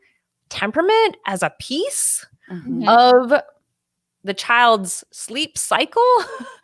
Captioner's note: laughs